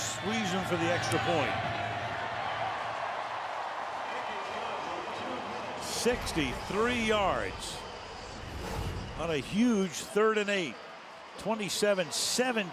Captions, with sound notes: with Suisham for the extra point. [cheering] 63 yards on a huge third and 8, 27-17, Pittsburgh.